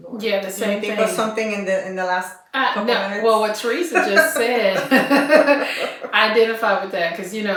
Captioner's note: laughter